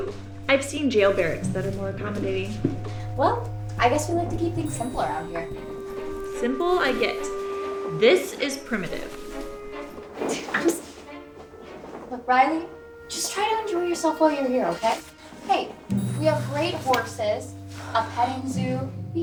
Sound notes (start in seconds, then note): 10.3 scoffs